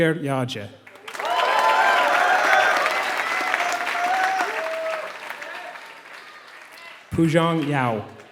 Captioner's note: applause